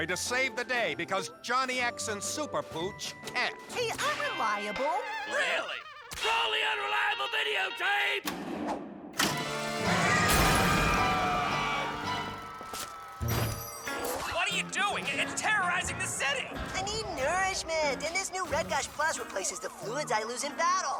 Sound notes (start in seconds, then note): 7.4 click; 9.5 panicked screaming